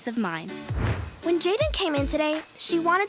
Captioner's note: whooshing